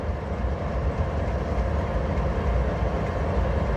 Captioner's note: lovely diesel noises